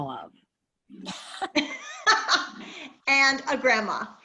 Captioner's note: laughter